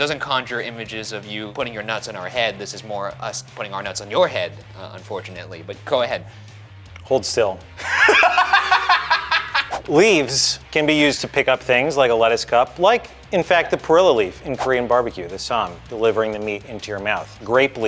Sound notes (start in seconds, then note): 7.8 laughing; 9.6 graphic whooshing